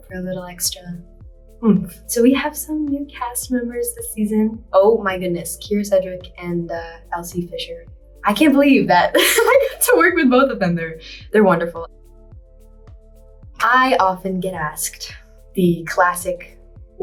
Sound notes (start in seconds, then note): 9.1 laughs